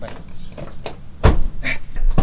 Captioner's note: door thuds